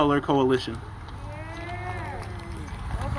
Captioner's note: applause